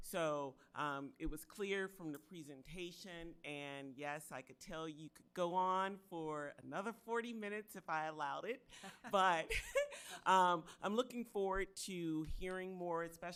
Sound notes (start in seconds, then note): 8.8 members laughing